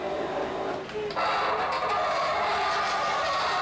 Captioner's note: pulley Screeching